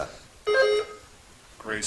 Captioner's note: buzzer chimes